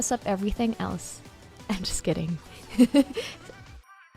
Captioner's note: laughs